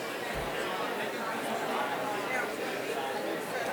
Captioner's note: none